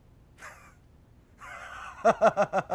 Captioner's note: cough